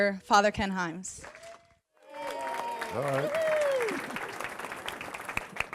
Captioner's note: applause